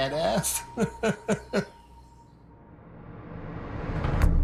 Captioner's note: laughing